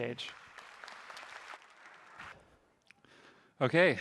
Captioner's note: applause